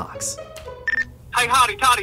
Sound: Nextel Chirp

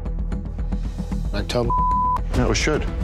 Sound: beeping

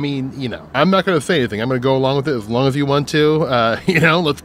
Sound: laughs

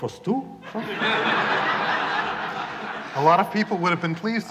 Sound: laughter

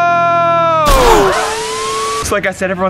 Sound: siren blaring

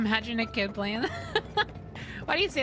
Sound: laughter

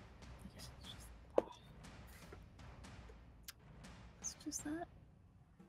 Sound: whispers

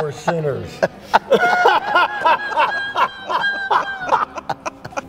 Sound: loud laughter

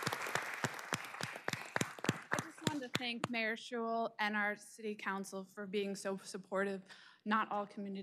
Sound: applause

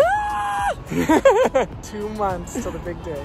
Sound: laughing

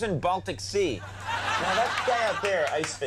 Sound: audience laughing

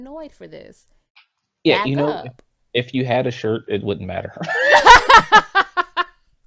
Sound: both laughs

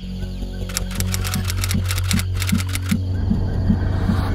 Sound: ominous music; electronic clicks

